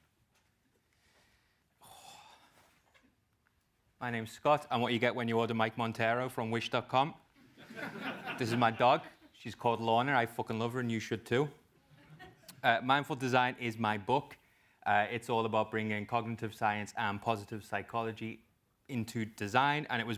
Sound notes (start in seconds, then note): 7.6 laugh